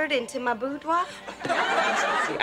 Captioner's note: crowd laughing